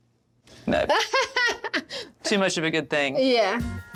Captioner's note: laughs